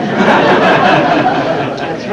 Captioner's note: laughter